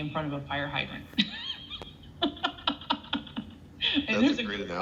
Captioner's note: seller laughs